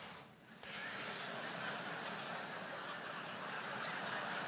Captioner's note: audience laughs